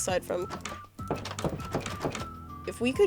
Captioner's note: door clicking